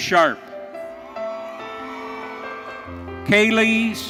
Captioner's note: audience cheering